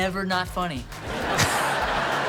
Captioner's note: laughing